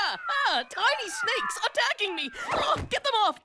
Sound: screaming

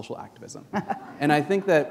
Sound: chuckle

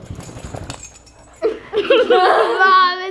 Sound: clanging; everyone laughs

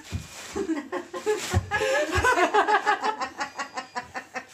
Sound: laughing; beeping

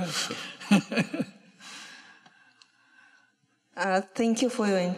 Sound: laughter

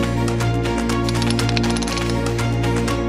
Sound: ticking

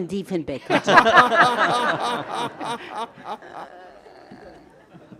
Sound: all laughing loudly

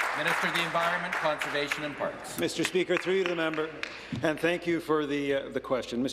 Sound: applause

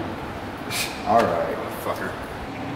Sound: scoffs

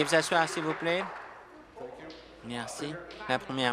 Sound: applause

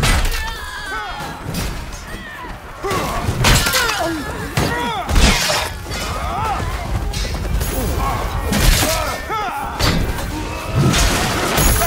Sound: screams, Pain, Agony

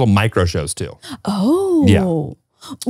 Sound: exclaiming

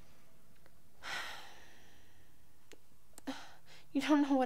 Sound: sighs

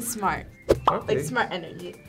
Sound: bubble pops

